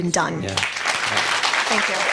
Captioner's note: applause